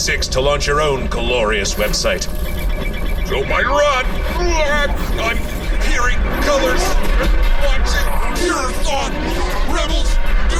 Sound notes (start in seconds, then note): 1.9 alarm dings; 4.0 increased distortion noises, Hark groans; 7.8 heavily distorted, pained